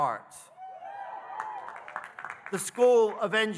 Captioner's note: audience cheering